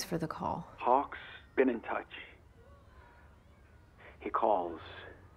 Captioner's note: on phone